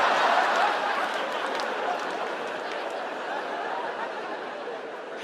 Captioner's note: audience laughing